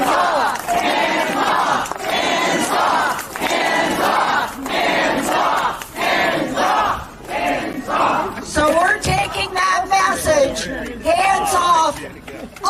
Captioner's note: chanting